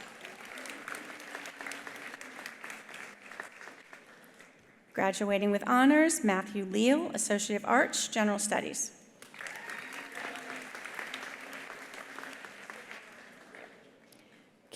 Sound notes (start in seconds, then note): 0.0 attendees applauding; 9.2 attendees applauding; 9.3 attendees cheering